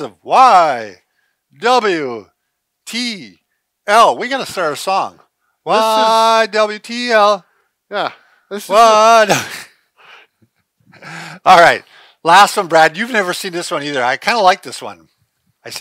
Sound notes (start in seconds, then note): 8.9 chuckling